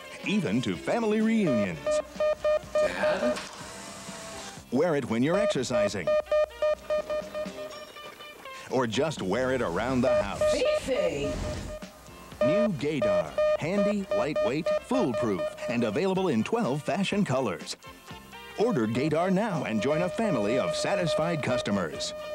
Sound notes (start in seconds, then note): 1.4 beeping; 5.3 beeping; 12.3 male Announcer over beeping; 12.4 beeping; 18.4 male Announcer over beeping